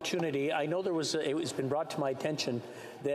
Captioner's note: speaking French